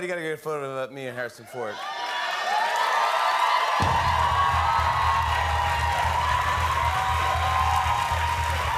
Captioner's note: cheers and applause